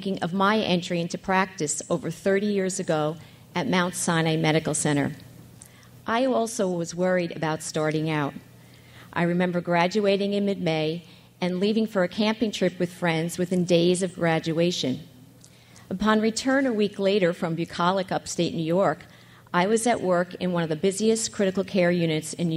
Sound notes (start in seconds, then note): none